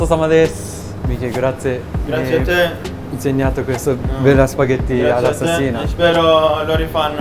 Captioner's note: Italian